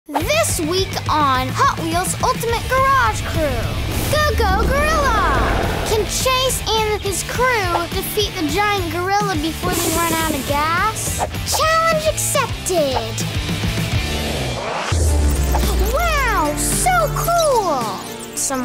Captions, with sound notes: - This week on, (rock music) Hot Wheels Ultimate Garage Crew, "Go-Go-Gorilla!" (gorilla roaring) Can Chase and his crew, defeat the giant gorilla before they run out of gas? Challenge accepted! (drum roll) Wow! So cool! (upbeat music)